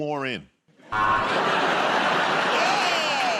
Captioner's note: buzzer